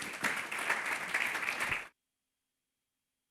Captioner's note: applause